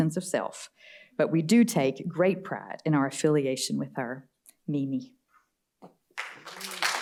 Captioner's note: applause